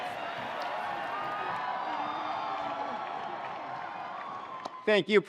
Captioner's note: attendees cheering